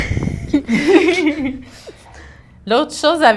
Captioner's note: laughter